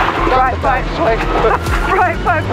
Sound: laughs

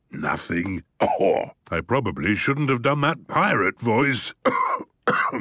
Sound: cough

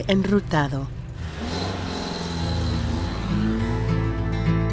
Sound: sonido del auto alejándose

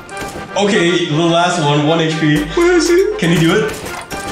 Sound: nervous laughter

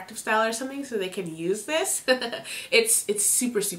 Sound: laughs

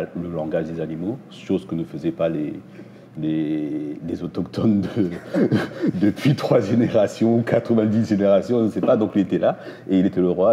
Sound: laughs

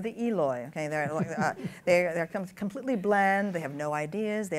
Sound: laughs

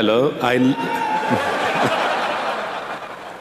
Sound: cheers

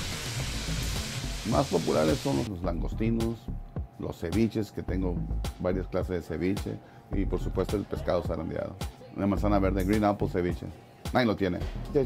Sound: non-english speech

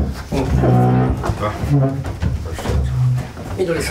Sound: sound of chair dragging on floor

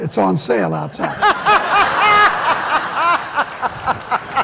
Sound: laughter

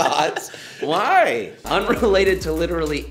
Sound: laughs

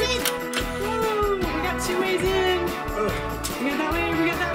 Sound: exclaims

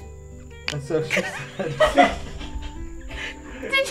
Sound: laughing

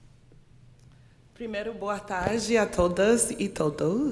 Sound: speaking portuguese

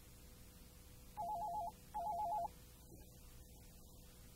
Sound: phone rings

